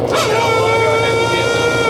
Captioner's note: engine revving